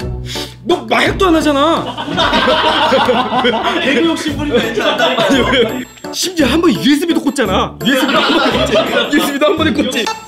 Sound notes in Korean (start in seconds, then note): 1.8 웃음소리